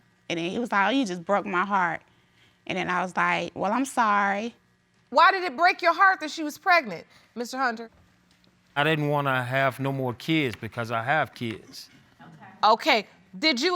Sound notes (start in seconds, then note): none